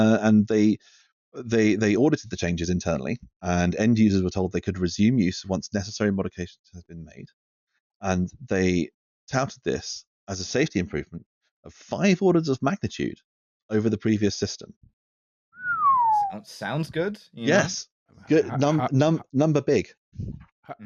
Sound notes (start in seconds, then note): 15.6 someone whistles